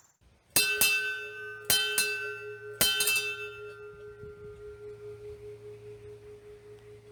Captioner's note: bell Rings and fades away